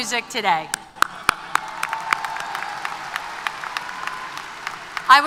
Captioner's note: applause & Cheers